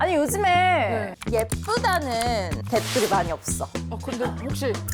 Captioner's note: sound effect of checking comments